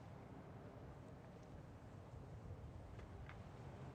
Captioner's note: none